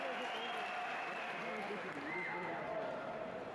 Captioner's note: cheers